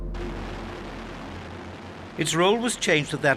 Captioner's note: plane roaring